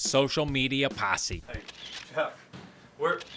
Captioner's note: camera clicking